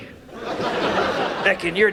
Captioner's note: audience laughs